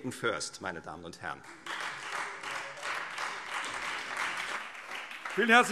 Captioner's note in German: Beifall Freie Demokraten und SPD